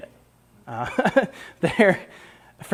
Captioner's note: laughs